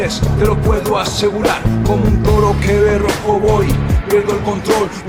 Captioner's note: non-english speech